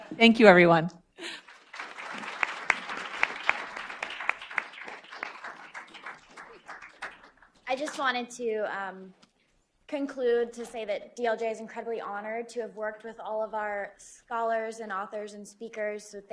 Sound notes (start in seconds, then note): 1.2 applause